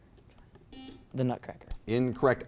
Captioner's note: buzzer beeps